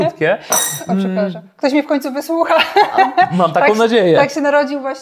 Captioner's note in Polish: śmiech